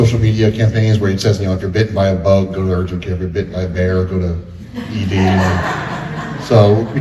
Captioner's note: laughter